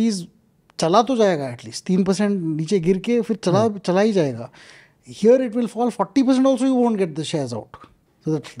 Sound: speaks in Hindi

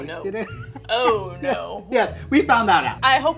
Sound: laughs

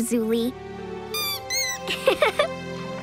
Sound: squeaking; laughing

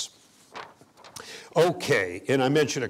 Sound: pages turning

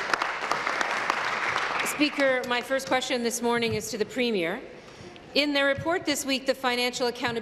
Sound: applause

